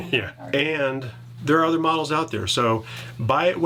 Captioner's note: chuckles